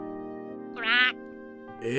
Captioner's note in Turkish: kurbağa vrak sesi çıkarır